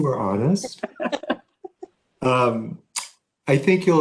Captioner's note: laughing